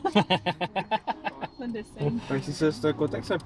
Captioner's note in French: rires